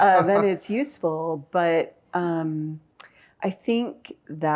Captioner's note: laughs